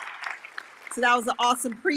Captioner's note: all applauding